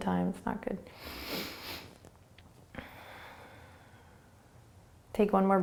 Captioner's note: breathing